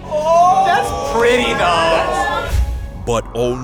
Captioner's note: all gasp